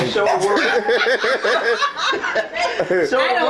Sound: laughs loudly

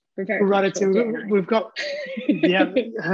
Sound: laughs

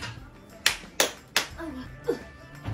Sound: clap

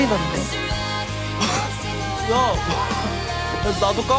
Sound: scoffs

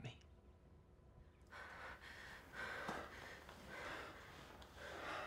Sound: panting

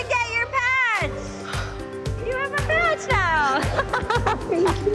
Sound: laughs

